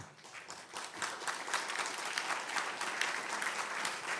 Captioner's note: audience applauding